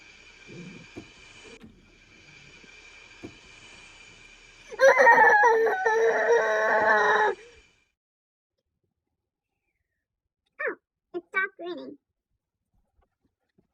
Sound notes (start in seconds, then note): 0.0 snoring; 3.6 angry noise; 7.4 rain stops